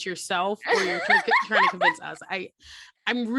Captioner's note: laughter